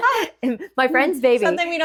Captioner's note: laughing